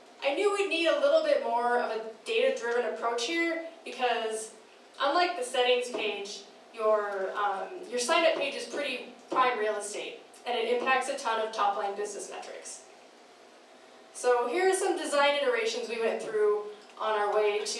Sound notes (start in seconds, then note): none